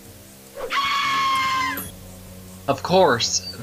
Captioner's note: short, but loud banshee screech